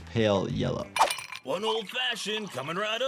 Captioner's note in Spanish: tintineo de hielo